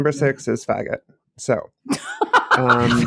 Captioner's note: incoherent, feral laughter